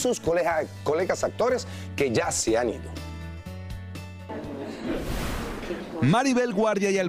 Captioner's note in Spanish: risas